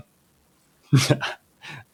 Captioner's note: laughter